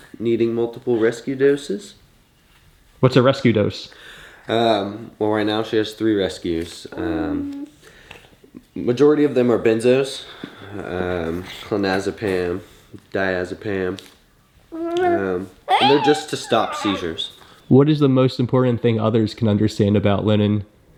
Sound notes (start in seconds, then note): 14.7 coos